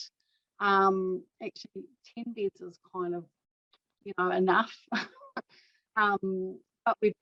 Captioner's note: chuckles